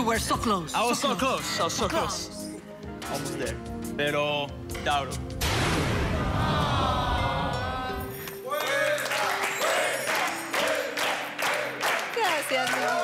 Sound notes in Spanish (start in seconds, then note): 7.2 Exclamaciones